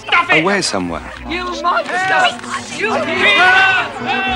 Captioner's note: all shouting